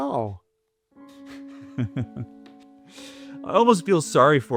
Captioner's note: Christopher laughing